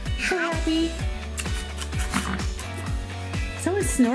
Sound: snorting noises

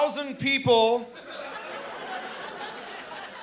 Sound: laughing

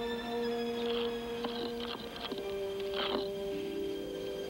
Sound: scraping

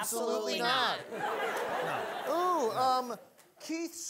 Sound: audience laughing

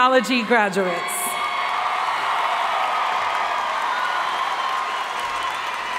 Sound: audience cheering and applauding

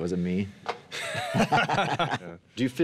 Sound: both laugh

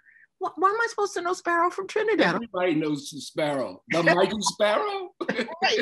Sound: laughs

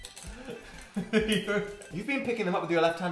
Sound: giggles

